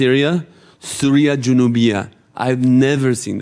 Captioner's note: speaking in foreign language